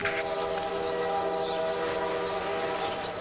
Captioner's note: tooting of train whistle